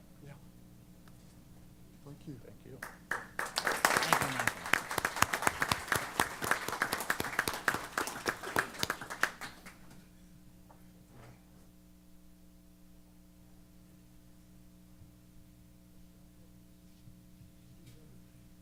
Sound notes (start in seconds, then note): 4.8 applause